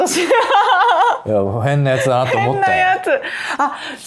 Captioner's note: laughs